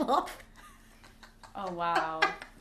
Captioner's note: laughs